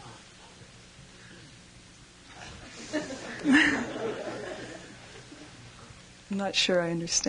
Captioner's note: laughter